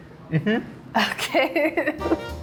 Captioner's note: laughing; upbeat jazz